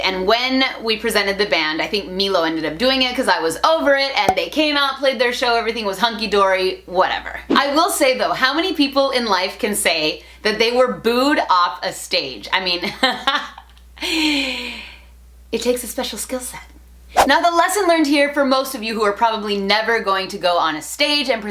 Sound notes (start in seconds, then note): 13.4 laughter